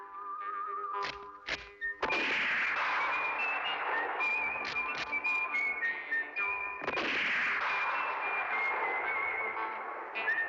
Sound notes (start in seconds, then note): 2.0 gunshot